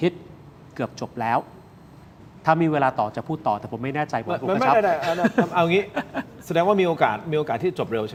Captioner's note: laughs